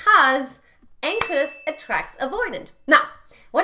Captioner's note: bell chimes